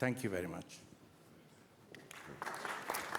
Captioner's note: applause